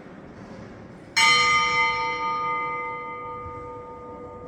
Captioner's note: 4 deeper bell chimes for 4pm